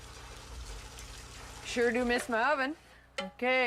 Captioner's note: egg sizzles